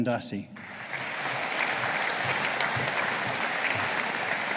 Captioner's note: audience applauding